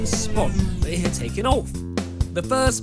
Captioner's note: spaceship landing noises